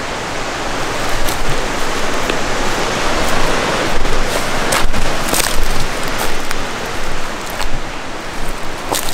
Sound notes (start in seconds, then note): 0.9 sticks crunching; 1.7 water rushing